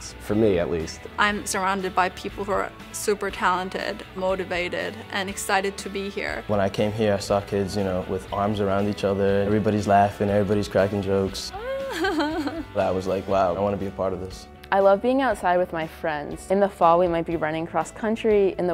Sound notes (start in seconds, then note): 11.5 laughing